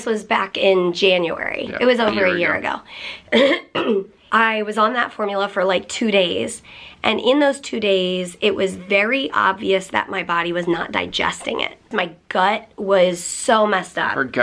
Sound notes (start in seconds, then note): 3.4 clears throat